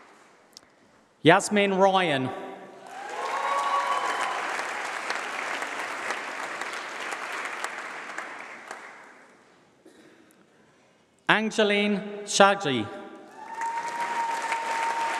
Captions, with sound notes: Yasmin Ryan. [Applause]. Angelin Shaji.